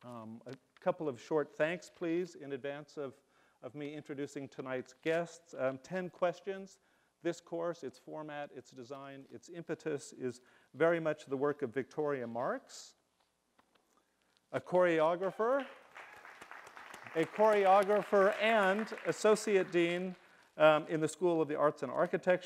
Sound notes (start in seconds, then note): 15.2 audience cheering